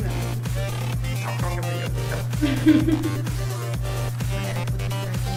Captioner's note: laughing